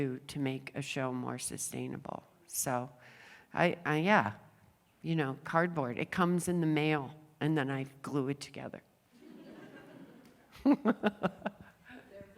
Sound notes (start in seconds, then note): 9.1 laughter; 9.2 laughs